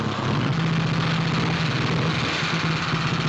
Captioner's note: revving